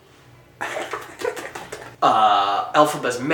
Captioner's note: makes feet dying sound